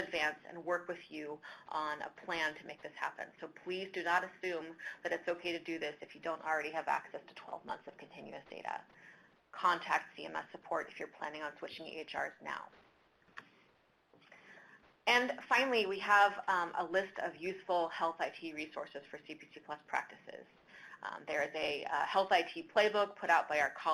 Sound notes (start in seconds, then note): 12.7 silence